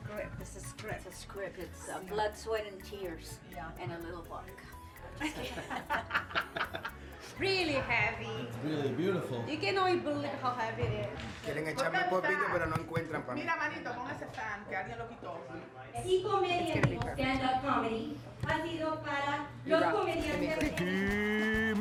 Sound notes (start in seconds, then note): 5.2 laughing; 11.1 speaking Spanish; 17.3 announcer speaking Spanish